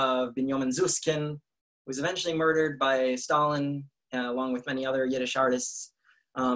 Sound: in Russian

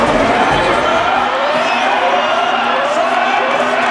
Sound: alarm sounding

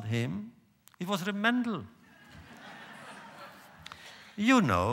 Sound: laughter

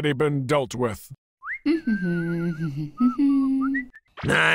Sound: whistling

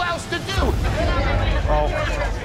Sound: loud chatter

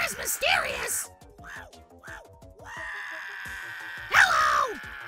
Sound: continues screaming

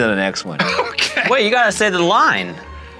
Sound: laughing

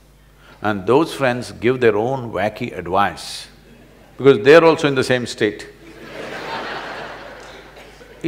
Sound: laughter

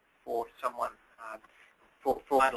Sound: pause

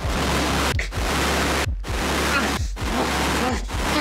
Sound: Rylan choking

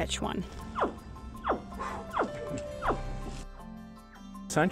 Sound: bird whooping

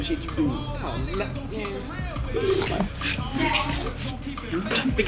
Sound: speaking away from mic

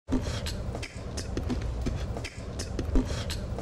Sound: beat boxing

